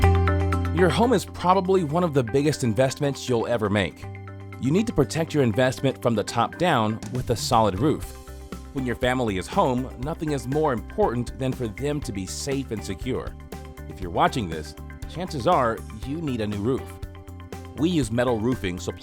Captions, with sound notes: - [Voiceover] Your home is probably one of the biggest investments you'll ever make. You need to protect your investment from the top down with a solid roof. When your family is home, nothing is more important than for them to be safe and secure. If you're watching this, chances are you need a new roof. We use metal roofing supplied